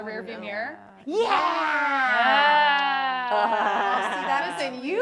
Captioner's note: makes dracula noise